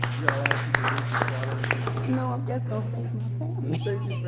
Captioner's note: applause